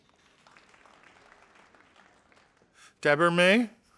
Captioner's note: audience applauding